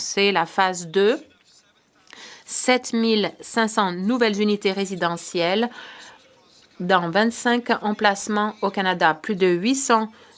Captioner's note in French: voix de l'interprète